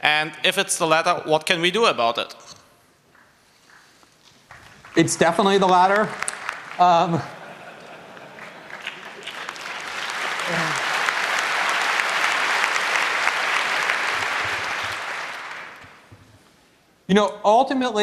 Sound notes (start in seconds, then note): 7.6 laughter, applause